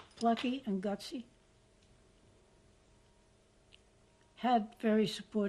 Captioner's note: pauses for 3 seconds